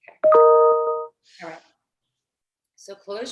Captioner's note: chiming